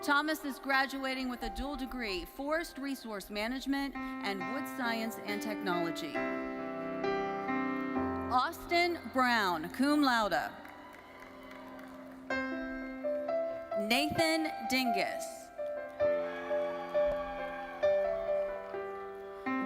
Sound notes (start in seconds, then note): 10.5 audience cheering; 16.0 audience cheering